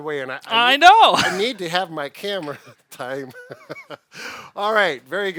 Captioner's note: laughs